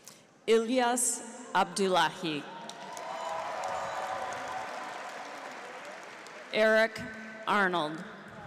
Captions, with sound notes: Ilias Abdulahi. (audience applauds) (cheers) Erik Arnold.